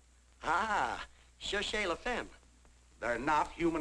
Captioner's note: speaking in French